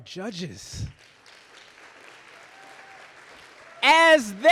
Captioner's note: audience applauding